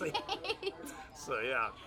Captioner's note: laughs